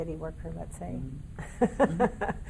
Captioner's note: laughing